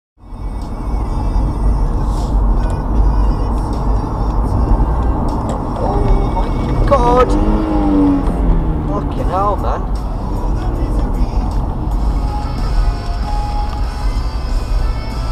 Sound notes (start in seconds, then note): 3.6 indicator sounds; 7.2 car engine rev sounds